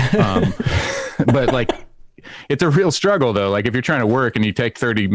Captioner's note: laughter